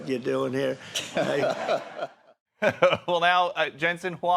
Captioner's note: laughter